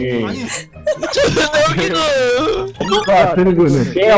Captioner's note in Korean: 웃겨서 숨 넘어감ㅋㅋㅋ